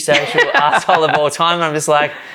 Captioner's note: laughs